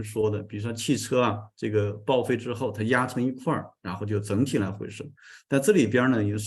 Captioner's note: continues to speak in Chinese